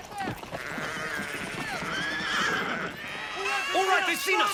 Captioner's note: horses neigh